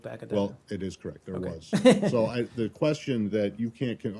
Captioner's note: laughter